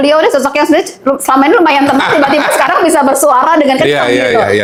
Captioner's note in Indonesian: tertawa